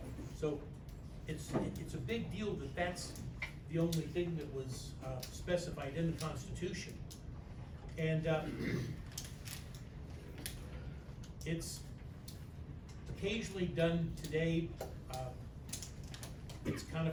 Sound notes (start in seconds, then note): 8.4 clears throat